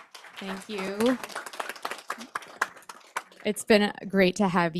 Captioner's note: audience clapping